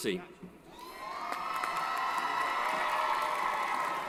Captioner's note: cheering